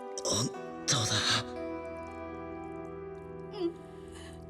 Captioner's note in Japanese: 鼻息